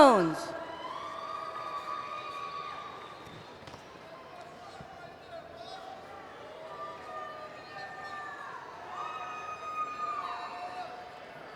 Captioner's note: cheering